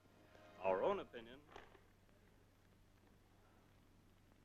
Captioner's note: radio dies out